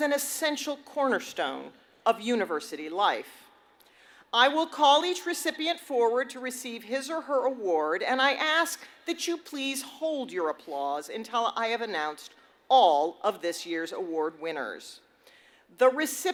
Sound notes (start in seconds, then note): none